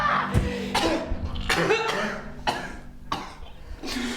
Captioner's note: coughing